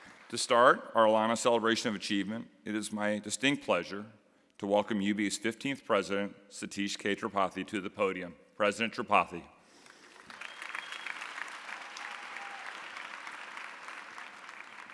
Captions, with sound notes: To start our ALANA Celebration of Achievement, it is my distinct pleasure to welcome UB's 15th president, Satish K. Tripathi to the podium. President Tripathi. (audience applauding)